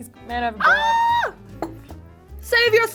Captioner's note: shrieks